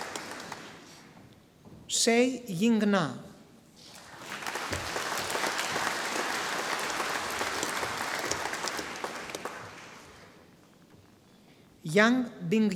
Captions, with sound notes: Xie Yingna, (audience applauding) Yang Bingyan,